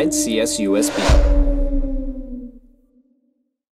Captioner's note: howl